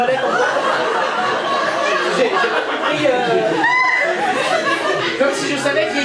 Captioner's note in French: rires public